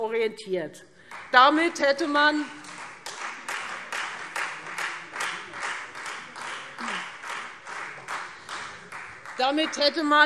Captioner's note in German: Beifall Freie Demokraten